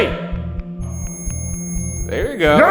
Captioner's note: REM pod screeching